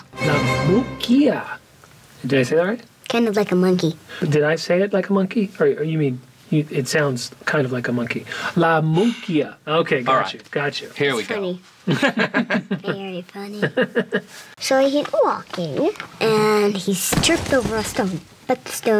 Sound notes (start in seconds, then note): 9.5 sigh; 11.8 laughter